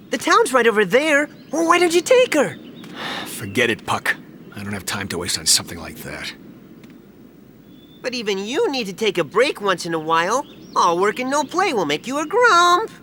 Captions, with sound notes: The town's right over there! Why don't you take her? (Sigh) Forget it, Puck. I don't have time to waste on something like that. But even you need to take a break once in a while! All work and no play will make you a gruuump!